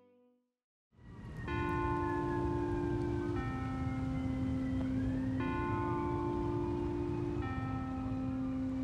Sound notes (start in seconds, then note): 2.6 distant siren